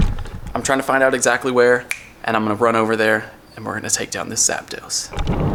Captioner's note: snap